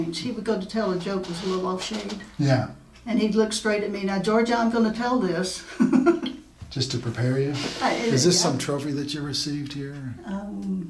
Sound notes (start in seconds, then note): 5.7 laughing